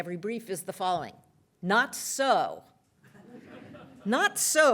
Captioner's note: laughter